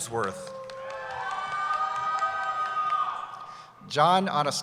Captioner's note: cheering